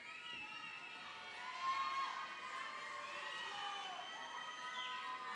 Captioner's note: people cheering; people shouting